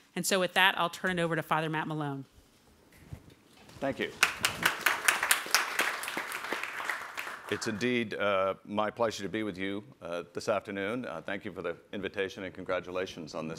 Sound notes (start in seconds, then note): 4.0 applause